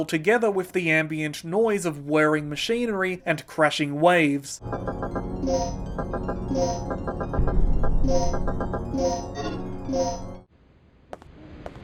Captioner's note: sound design medley